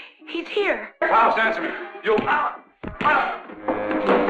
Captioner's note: punches thudding